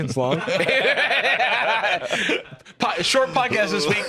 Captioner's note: all laughing